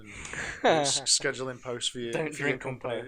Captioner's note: laughter